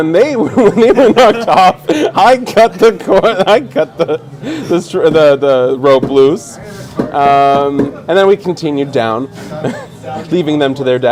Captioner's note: laughing